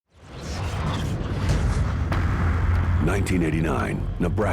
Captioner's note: whooshing; electrical sparking